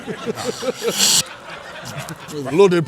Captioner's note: laughter